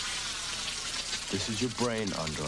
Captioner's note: sizzling